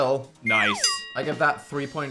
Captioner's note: bell dings